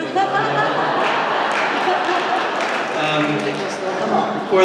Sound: laughter

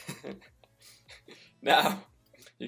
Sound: laughs

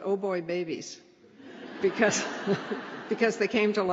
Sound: laughter

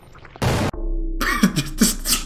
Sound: bang; stifled laughter

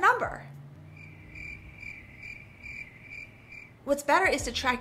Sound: crickets chirping

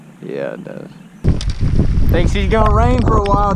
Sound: wind blowing loudly

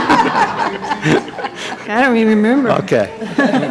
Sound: laughter

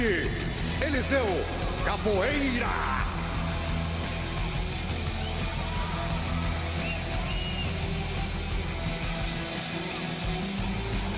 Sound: speaking foreign language

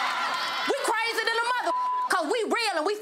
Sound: audience laughs; beep

